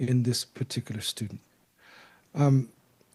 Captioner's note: sigh